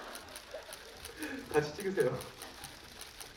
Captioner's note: laughs